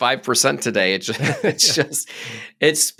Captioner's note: both laughing